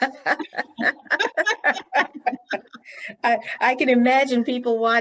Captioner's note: both laughing